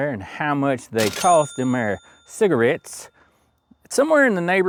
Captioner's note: bell Ringing